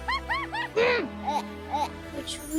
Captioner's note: laughs; grunts